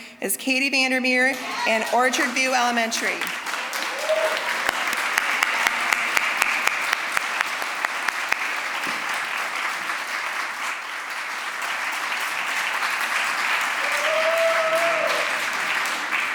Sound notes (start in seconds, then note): 3.5 applause, cheering; 6.5 applause; 14.0 applause, cheering